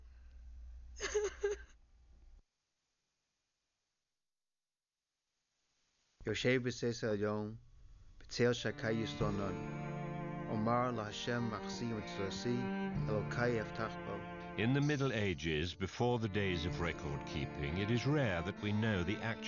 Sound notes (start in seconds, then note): 7.1 speaking Hebrew